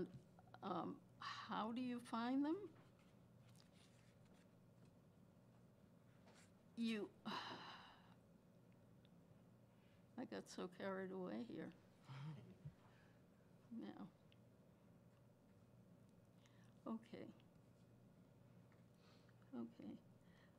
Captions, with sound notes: How do you find them? (sighs) I got so carried away here. Okay. Okay.